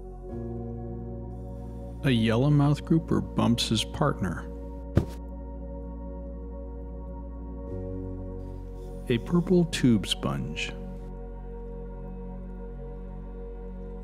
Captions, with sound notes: A yellow mouth grouper bumps his partner. [bump] A purple tube sponge.